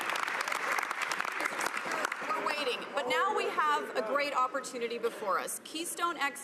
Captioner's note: some Applause